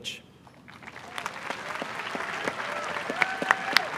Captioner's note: applause